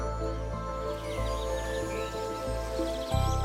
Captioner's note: birds chirping